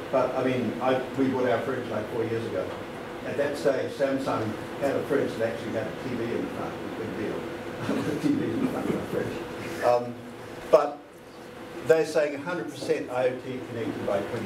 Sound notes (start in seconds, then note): 6.0 laughter